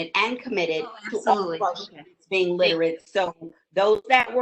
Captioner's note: murmurs